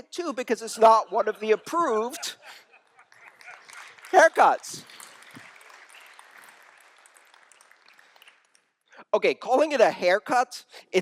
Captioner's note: laughter